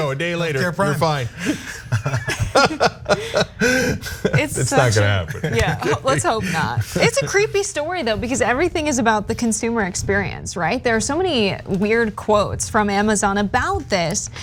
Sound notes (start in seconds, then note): 1.2 laugh